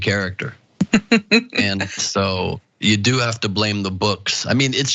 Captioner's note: laugh